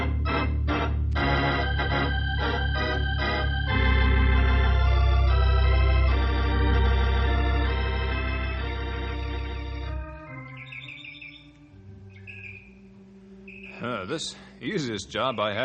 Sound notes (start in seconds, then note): 7.0 birds chirping